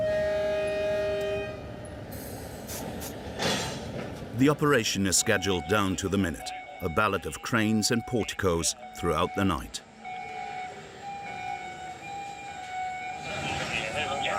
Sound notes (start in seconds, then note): 0.0 train horn blaring; 10.3 alarms blaring